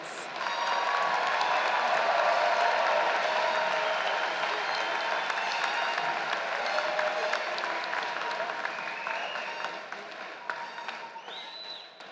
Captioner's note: applause